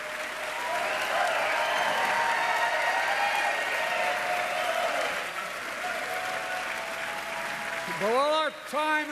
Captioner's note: applause